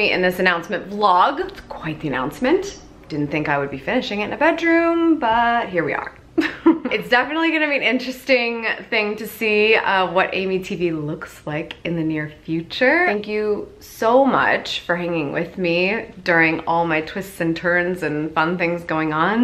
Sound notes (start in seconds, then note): 6.4 laughs